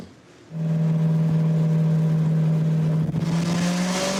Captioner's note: engine revving